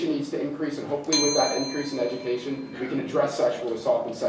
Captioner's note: bell dings, continues